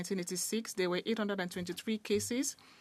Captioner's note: speaking French